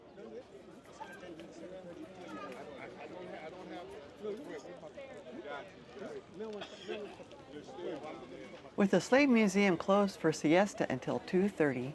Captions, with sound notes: [chatter] With the slave museum closed for siesta until 2.30,